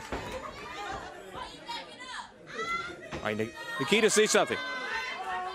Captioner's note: crowd chatter